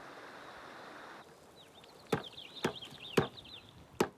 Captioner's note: tapping